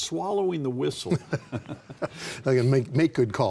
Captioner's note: laughing